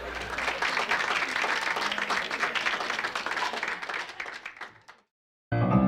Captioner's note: audience applauding